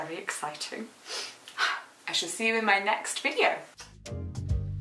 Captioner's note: sighs; lip smacking; upbeat jazz music